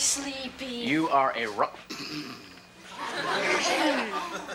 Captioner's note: Kevin snores; audience laughs